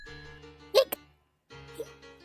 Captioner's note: Hic